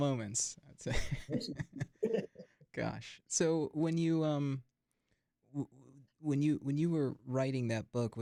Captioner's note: chuckles